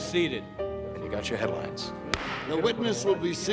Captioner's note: gavel thunks